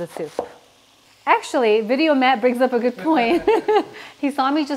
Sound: laughs

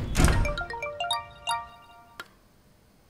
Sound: phone rings

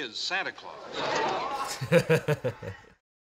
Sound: murmuring from courtroom; laughing

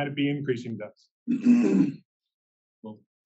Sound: cough

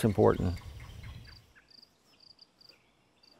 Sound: birds and insects chirping

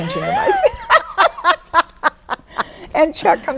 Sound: women laugh

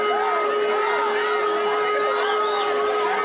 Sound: siren hoots

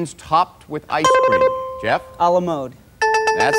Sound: dinging; button chimes

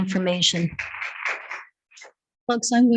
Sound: board members applauding

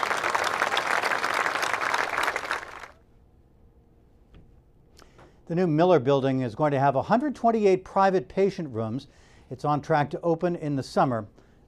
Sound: applause

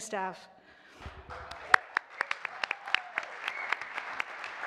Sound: all applauding

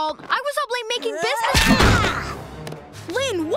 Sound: hollering

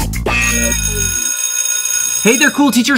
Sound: school bell ringing

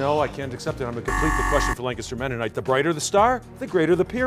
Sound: buzzer

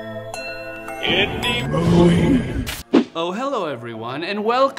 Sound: spooky Voice

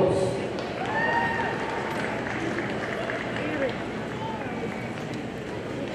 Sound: audience cheers and applauds

